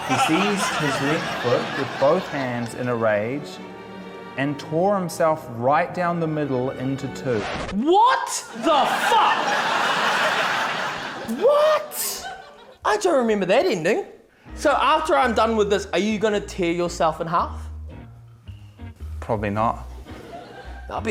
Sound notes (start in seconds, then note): 7.3 record scratches; 8.5 laughter